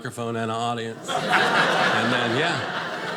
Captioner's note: audience laughing